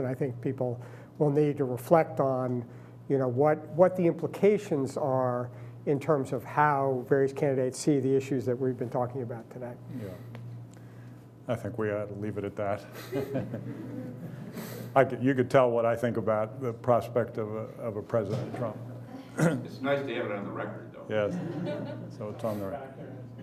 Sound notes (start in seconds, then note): 12.9 laughing; 19.3 clears throat